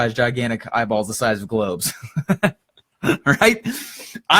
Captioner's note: laughs